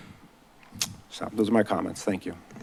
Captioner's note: smacks lips